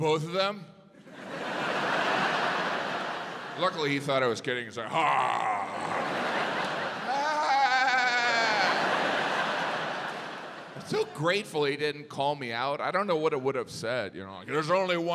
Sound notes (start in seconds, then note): 5.0 imitates laughing